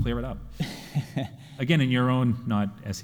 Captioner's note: chuckling